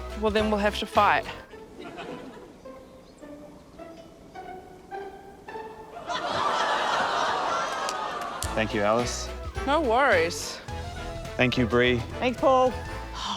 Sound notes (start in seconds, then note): 5.9 laughter